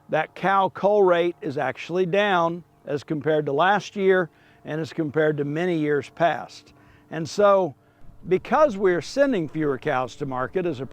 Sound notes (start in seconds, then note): 3.8 airplane softly roars